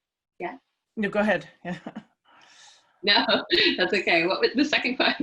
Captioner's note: laugh